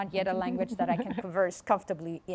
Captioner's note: laughs